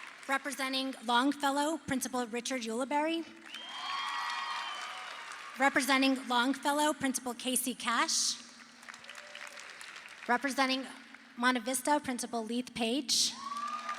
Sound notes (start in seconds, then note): 3.4 crowd cheers